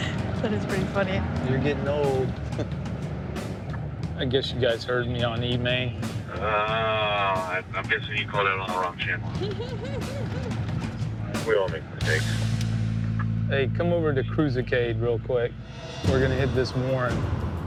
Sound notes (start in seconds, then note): 5.9 man on radio; 9.2 laughs; 10.9 man on radio